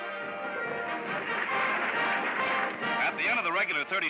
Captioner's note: applause